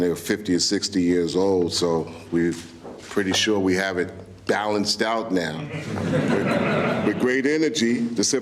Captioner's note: laughter